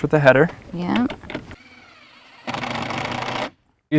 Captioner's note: drills whirring, no additional audio